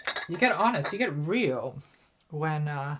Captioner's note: cups clinking